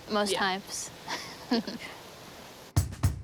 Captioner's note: laughs; bass drum beats